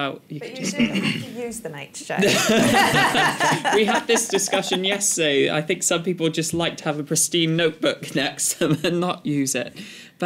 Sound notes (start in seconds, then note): 2.2 laughter